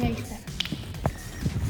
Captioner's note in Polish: pstryknięcie palcami